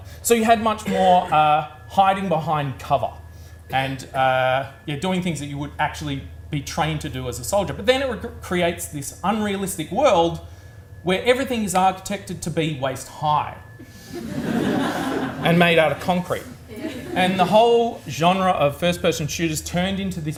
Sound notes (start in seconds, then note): 13.9 audience laughs